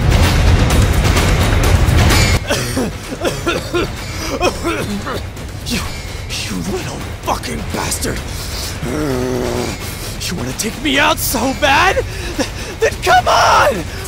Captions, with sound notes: *Coughing and groaning in pain* You.... You little fucking bastard! *Growling* You wanna take me out so bad?? THEN COME ONNN!!!!